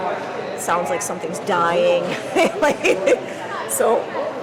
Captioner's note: laughing